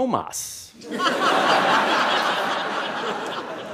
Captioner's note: laughter